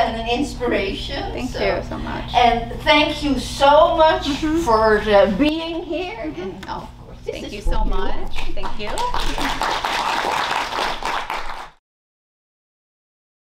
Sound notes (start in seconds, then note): 8.4 audience clapping